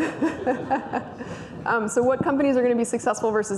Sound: laughs

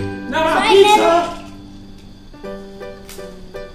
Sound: voiceover

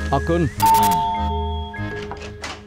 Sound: doorbell ringing

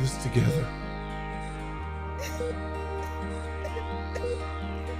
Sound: heart monitor beeping

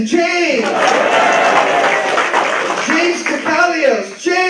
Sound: applause

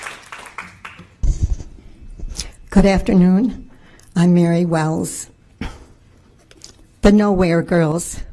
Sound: applause

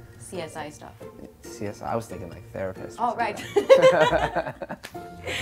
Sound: laughs

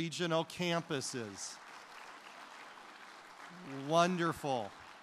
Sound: applause

